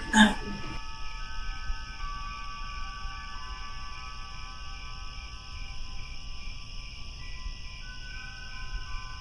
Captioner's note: crickets, wind chimes